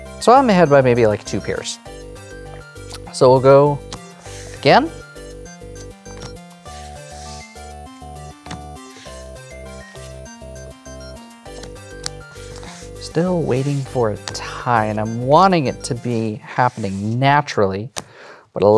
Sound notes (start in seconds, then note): 3.8 cards slap; 5.0 cards slapping and sliding